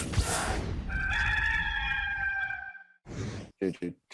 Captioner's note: rooster crowing